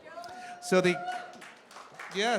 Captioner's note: cheering